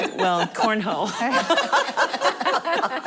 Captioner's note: laughing